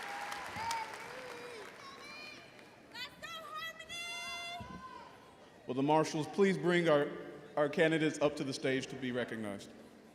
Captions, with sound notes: (audience members exclaiming) - Will the marshals please bring our candidates up to the stage to be recognized?